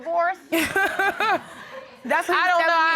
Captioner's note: laughing